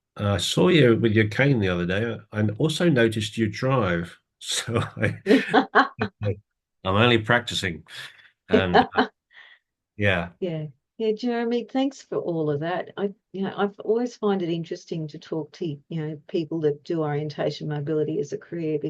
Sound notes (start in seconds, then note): 4.4 laughs; 8.5 laughs